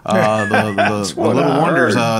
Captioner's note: laughing